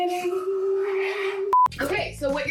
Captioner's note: festively singing; beeping